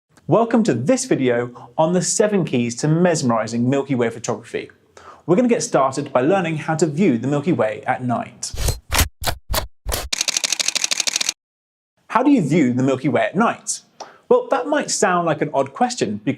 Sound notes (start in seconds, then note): 9.9 camera gear clicks; 9.9 shutter snaps rapidly